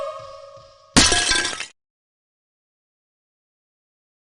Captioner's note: crash!